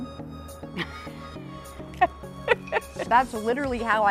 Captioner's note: laughing